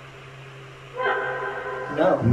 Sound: high pitched voice

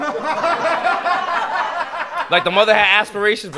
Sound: laughter

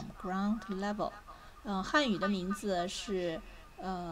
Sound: 开口说汉语

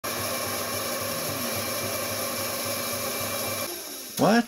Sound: electric drill sounds

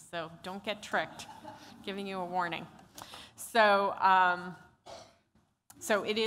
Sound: laughter

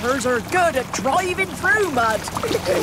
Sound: giggling

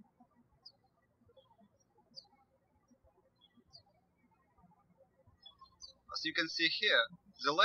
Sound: birds chirping

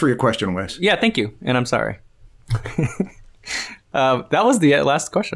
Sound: chuckles

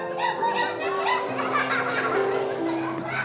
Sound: laughter

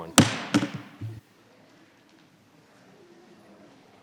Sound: gavel thuds; crowd chattering

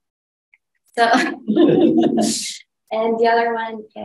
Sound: laughter

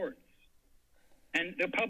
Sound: silence

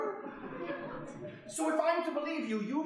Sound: audience laughing

